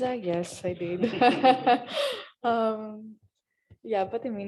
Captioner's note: laughter